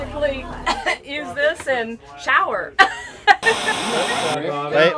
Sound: laughter

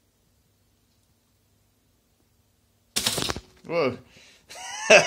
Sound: toast pops

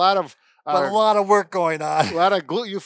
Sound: laughing

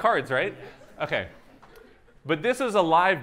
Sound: laughter

